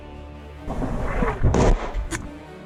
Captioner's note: artillery Incoming